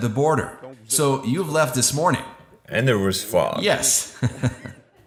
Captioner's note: laughs